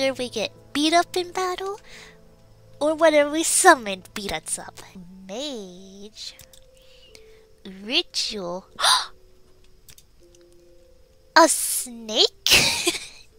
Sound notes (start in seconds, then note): 6.8 gasp; 12.3 laughs